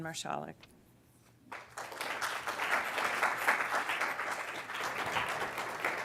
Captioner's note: applause